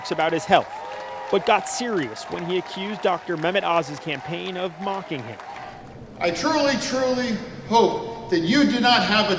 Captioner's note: crowd cheering